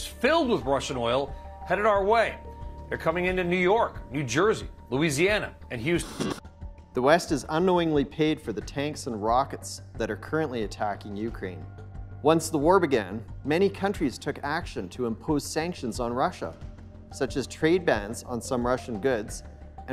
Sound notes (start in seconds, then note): 6.0 static buzzing